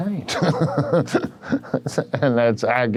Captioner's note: laughs